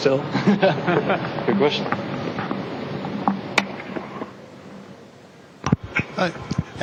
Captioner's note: laughter